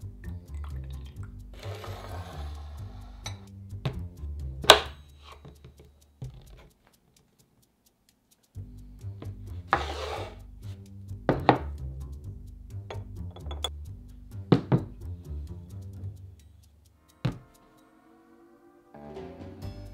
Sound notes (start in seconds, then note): 0.3 liquid pouring